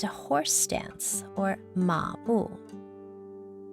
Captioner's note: speaking in foreign language